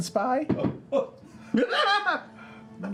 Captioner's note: loud giggling